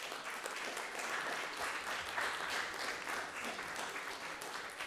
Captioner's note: applause